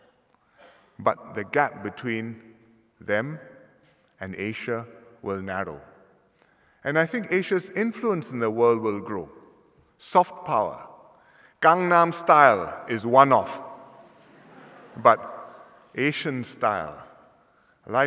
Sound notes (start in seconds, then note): 14.2 laughter